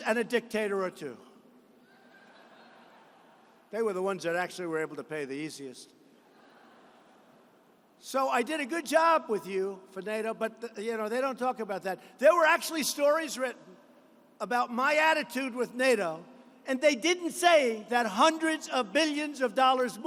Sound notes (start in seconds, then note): 6.2 laughter